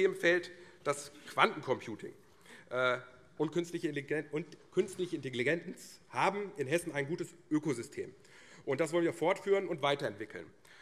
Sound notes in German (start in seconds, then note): none